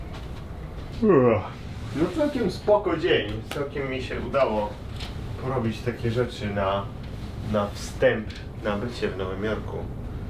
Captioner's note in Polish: Ziewnięcie